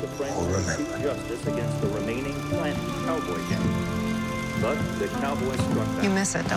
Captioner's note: man speaking in film